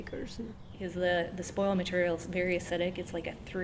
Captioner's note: voiceover